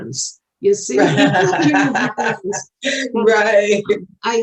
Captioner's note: both laughing